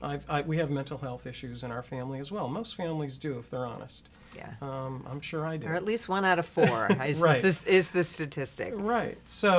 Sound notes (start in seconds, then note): 7.2 laughs